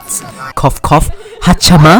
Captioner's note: cough